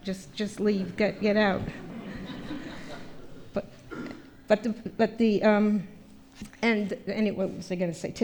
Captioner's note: laughter